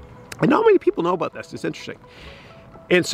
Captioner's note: none